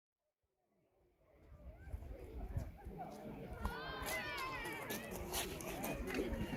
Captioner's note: sounds of walking on pebbles and kids playing